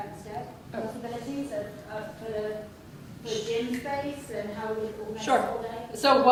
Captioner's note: speaking softly